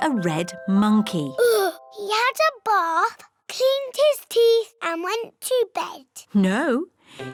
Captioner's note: sighs